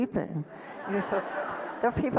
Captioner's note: audience laughter